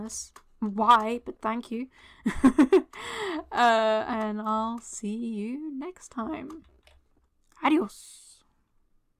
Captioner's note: laughter